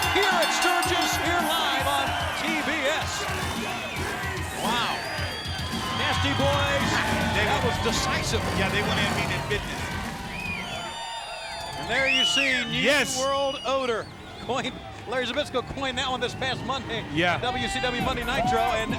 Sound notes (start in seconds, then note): 3.2 energetic music; 10.2 crowd cheering